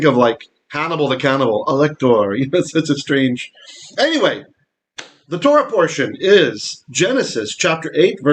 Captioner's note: Hebrew